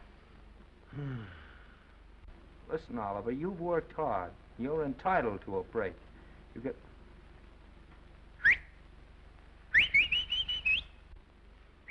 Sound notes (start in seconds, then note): 0.9 Oliver sighs; 9.7 whistling